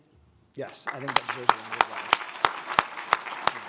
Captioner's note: applauding; all applaud